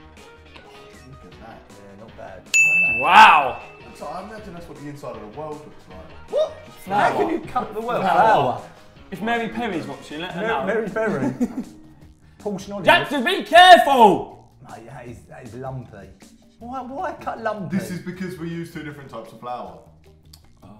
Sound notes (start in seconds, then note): 0.3 upbeat music; 2.5 ding